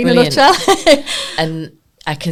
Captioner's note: laughing